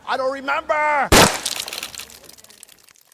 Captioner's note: loud gunfire; blood trickling